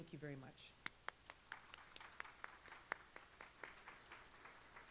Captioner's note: applause